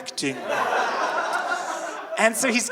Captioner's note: audience laughing